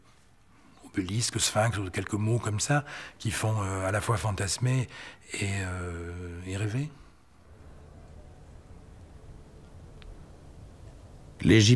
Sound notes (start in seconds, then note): 0.9 French spoken audio